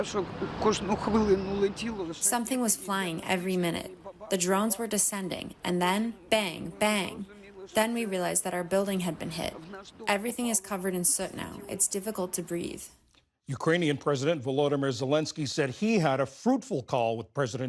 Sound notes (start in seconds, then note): 2.8 through translator